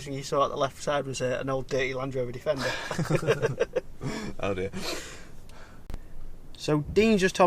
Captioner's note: laughs